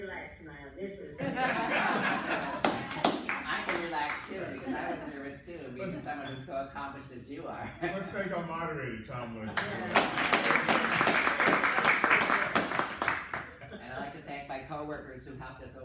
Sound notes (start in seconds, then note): 1.2 laughter; 12.6 clapping